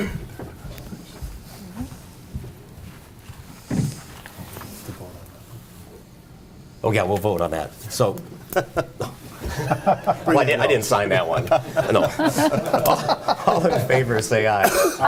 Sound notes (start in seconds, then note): 8.5 laughs; 11.1 laughter